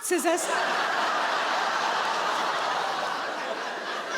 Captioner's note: audience laughing